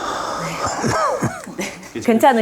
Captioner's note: coughing